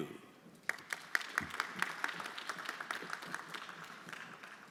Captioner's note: everyone applauding